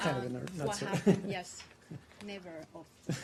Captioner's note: laughter